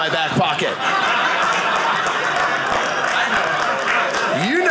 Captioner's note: audience laughing